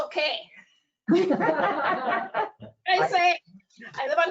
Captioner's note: laughs